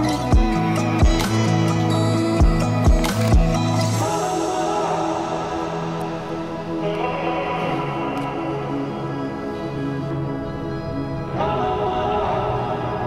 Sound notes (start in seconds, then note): 3.0 shutter closes; 5.8 relaxed hip hop music continues